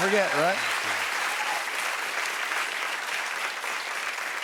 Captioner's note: cheers and applause